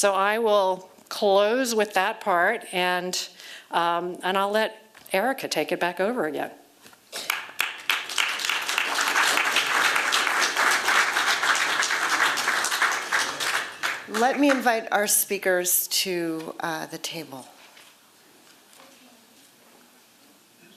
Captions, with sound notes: So I will close with that part. And I'll let Erika take it back over again. [APPLAUSE] Let me invite our speakers to the table.